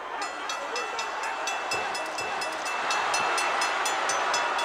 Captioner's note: bell rings